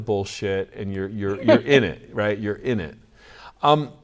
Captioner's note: laughs